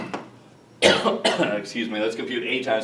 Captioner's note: coughs